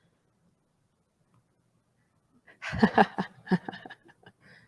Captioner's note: chuckles at crab